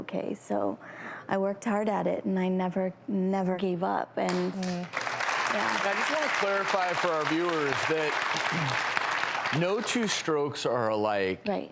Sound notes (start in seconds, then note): 4.3 applauding